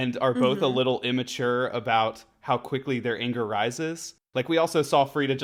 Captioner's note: 'mhmms in agreement'